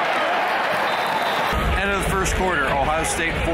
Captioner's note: applause